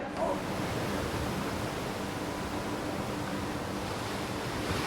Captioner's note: sound of rushing water